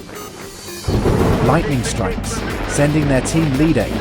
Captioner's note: thunder; frantic radio chatter